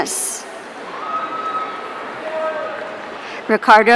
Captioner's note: audience cheering